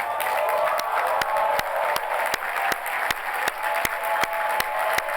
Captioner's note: applause, cheering